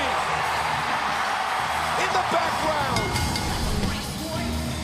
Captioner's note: crowd cheering